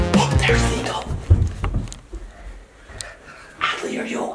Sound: whispering

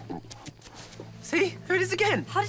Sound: animal grunting

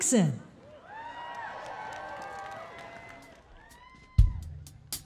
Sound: audience cheering

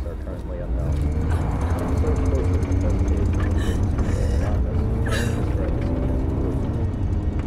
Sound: car revving; crying

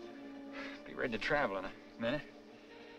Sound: breathing heavily

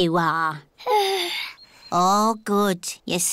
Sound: yawns

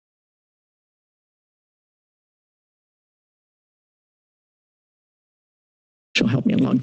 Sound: silence

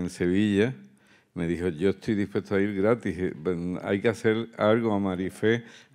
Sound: continues in Spanish

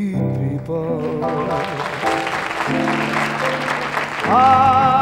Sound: audience applauding

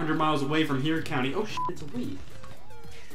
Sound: beep

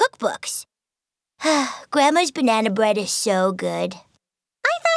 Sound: sighs

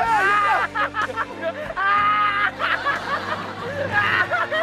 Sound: laughing

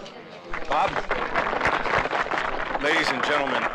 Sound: crowd applauding

